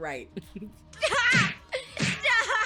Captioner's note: Gail laughs